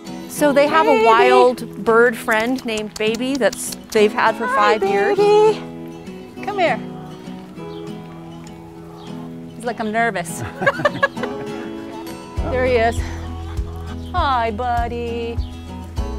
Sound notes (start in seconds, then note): 10.3 everyone laughs